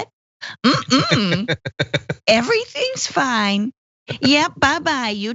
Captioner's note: laugh